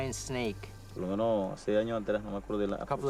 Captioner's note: speaking in foreign language